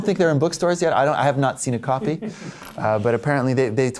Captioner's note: laughter